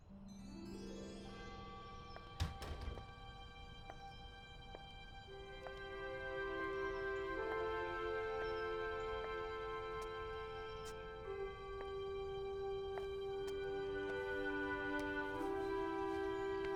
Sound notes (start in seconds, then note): 0.1 gentle music; 5.8 birds chirping